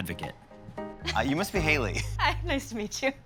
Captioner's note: chuckles